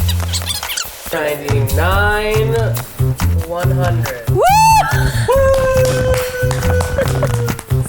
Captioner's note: whoop